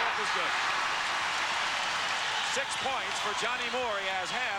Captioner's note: crowd cheers